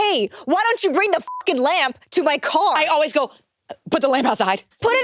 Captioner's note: beep